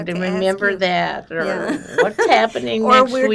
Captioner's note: laughing